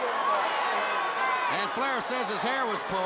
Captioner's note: crowd cheering